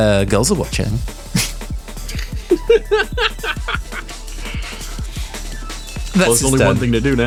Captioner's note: laughing